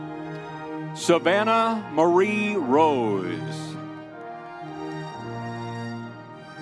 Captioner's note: crowd cheering